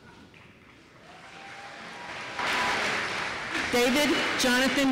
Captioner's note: applause